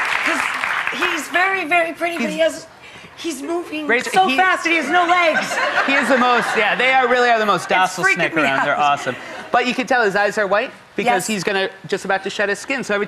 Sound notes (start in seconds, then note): 0.0 audience applauds; 4.7 audience laughs